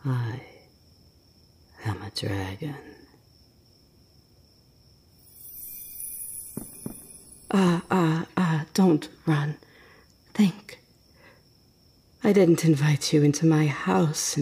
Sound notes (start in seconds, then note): 2.9 stumbling footsteps